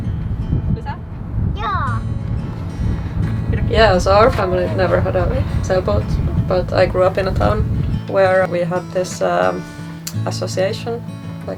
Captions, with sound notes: (talking in foreign language) Yeah, so our family never had a sailboat but I grew up in a town where we had this association,